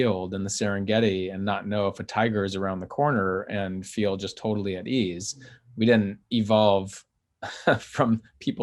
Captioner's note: chuckles